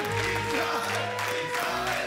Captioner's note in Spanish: Aplausos